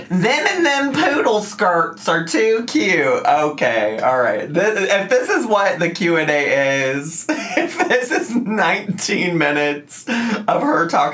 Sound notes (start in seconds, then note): 7.2 laughs